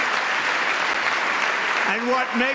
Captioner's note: applause